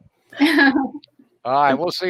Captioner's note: laughing